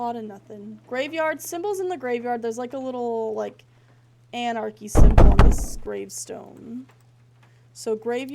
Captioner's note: three Loud Thuds